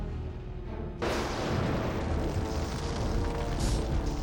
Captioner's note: thunderclap